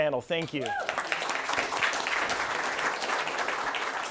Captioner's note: cheers, applause